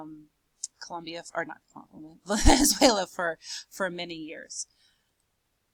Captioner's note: laughs